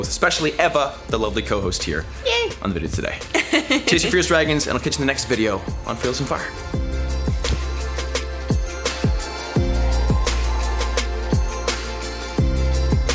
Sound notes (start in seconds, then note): 3.3 laughs; 6.7 upbeat music